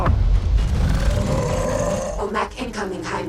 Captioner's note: growling